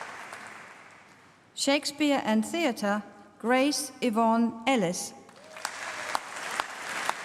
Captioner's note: applause